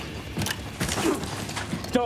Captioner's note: moan